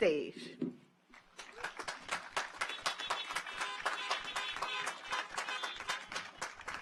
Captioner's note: audience applauds; car horns honking